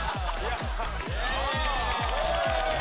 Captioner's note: laughter